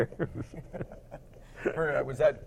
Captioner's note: both laugh